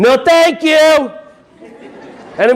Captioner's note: audience laughing